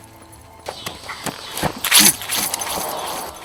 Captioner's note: keys jingle; suspenseful music